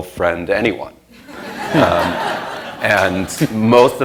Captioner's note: laughter